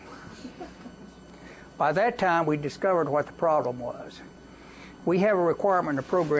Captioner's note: laughter